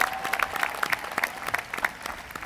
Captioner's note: applause